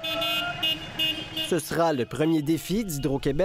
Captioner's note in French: klaxons